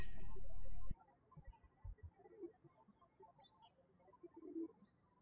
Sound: birds chirping

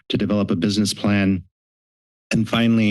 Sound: silence

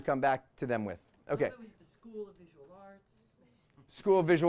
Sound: voiceover

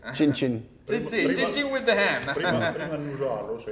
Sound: laughing

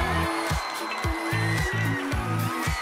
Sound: cheers and applause

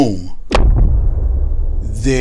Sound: explosion sounding

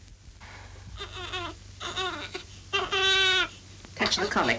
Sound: baby crying

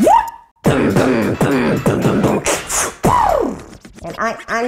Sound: beatboxing

